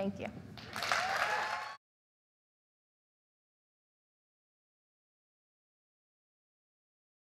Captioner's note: audience clapping; audience cheering